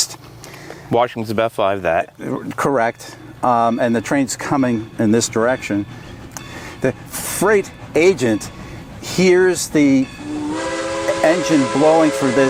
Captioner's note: sound of steam train blowing whistle